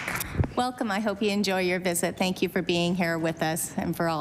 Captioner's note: applause